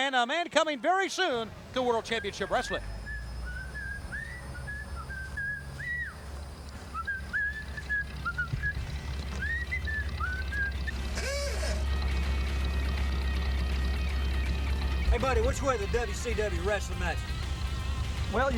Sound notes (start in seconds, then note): 3.6 man whistling; 11.3 car honking